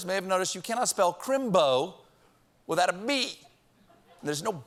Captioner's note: laughter